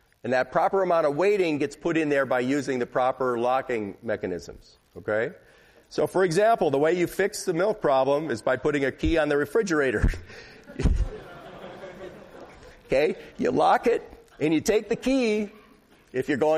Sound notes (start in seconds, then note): 10.6 laughter